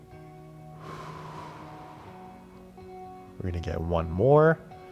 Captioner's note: exhaling